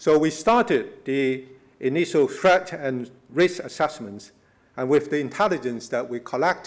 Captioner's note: none